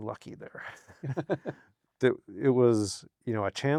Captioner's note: both laughing